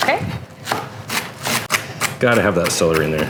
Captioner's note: crunching